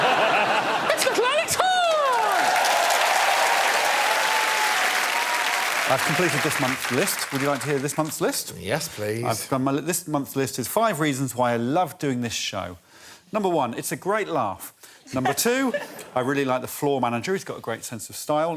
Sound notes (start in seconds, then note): 0.0 laughter; 1.7 cheers and applause